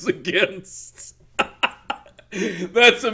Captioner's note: laughs